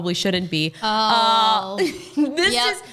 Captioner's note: laughs